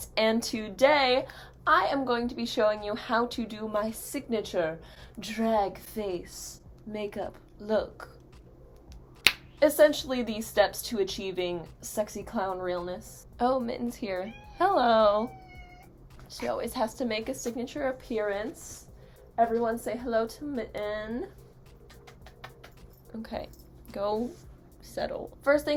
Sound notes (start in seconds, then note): 9.2 tongue pop; 21.6 kissy noises